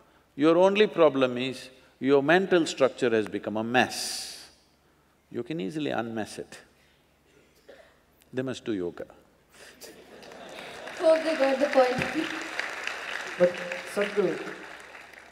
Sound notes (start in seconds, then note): 9.8 laughter/Applause; 14.1 laughs